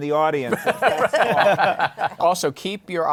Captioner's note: laughter